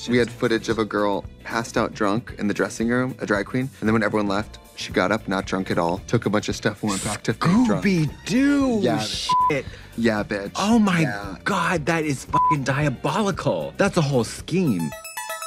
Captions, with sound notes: We had footage of a girl passed out drunk in the dressing room, a drag queen. And then when everyone left, she got up, not drunk at all, took a bunch of stuff, went back to playing drunk. - Scooby Doo! - Yeah, bitch. - (Beep). - Yeah, bitch. Oh my God. That is (beep) diabolical. That's a whole scheme.